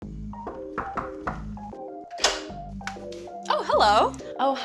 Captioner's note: knocking